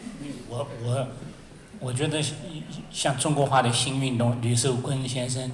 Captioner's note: Mandarin